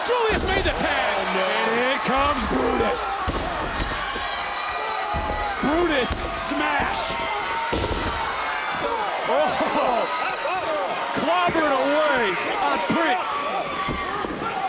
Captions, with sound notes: Julius made the tag. And it comes Brutus. (audience cheering) Ah! Brutus Smash! (audience cheering) (body thudding) Oh! Clobbering away on Prince.